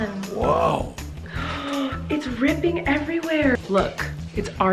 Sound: gasps

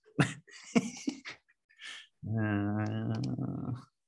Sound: laughs

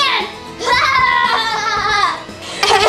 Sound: laughs loudly

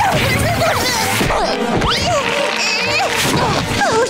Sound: grunting

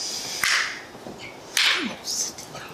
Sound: clap

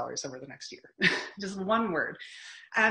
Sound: chuckling

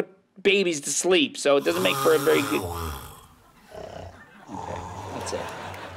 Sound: snoring noises

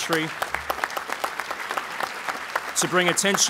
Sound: applause

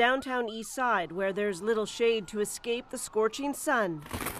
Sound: sirens

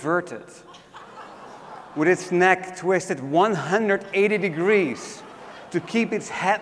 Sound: laugh

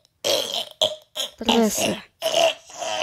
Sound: i asfixiándose

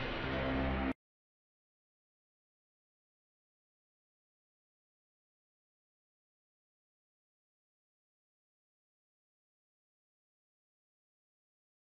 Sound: silence

